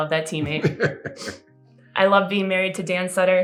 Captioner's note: laughter